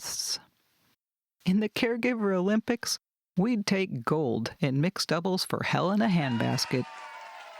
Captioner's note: stadium, crowd cheers